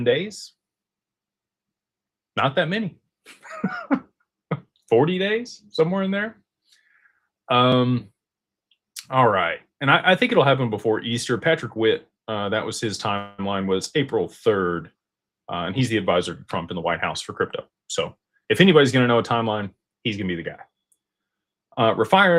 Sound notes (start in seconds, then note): 3.3 laughter